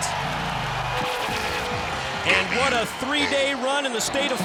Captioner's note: crowd cheering